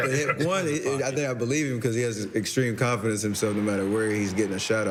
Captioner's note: laughter